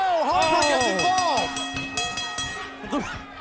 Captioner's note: bell ringing